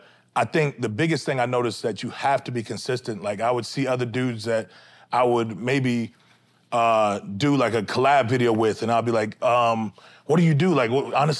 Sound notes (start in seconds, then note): none